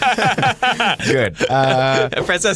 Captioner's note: laughter